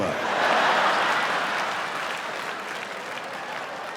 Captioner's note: laughing